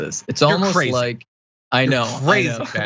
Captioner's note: laugh